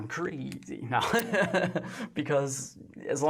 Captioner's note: laughs